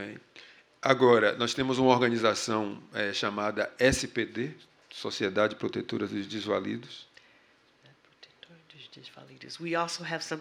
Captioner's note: speaking portuguese